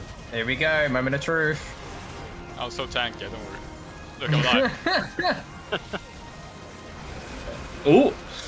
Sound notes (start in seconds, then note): 4.3 haha